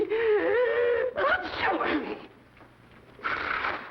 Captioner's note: sneezing